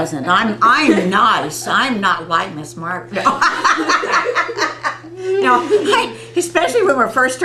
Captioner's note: laughter